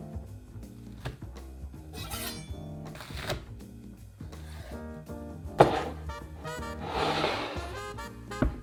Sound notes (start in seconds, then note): 2.0 knife slicing; 5.6 bowl sliding